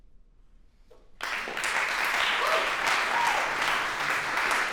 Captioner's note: applause